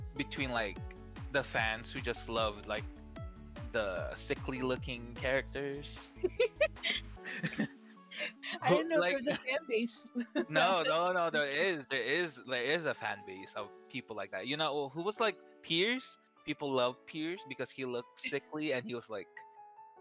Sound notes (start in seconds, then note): 7.2 both laugh